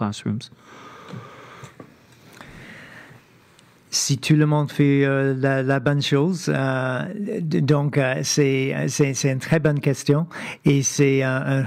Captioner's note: speaking French